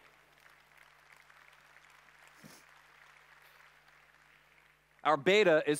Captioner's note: applause